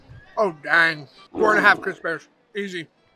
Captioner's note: bear roaring